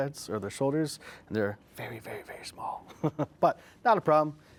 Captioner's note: laughs